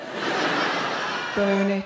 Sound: audience laughing

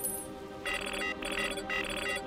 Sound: beeping

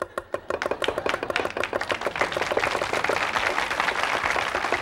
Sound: audience applauding

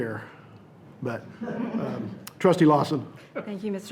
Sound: audience laughs

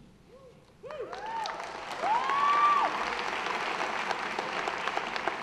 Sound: audience applauding

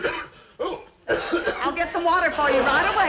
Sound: Brad choking

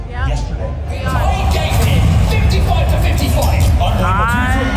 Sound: people clamoring

